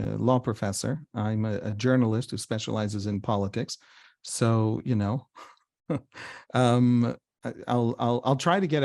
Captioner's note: chuckles